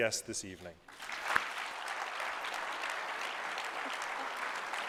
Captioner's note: applause